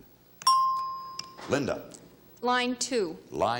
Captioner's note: bell chimes